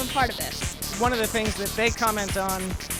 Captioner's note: voiceover